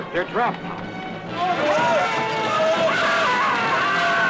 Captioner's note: screaming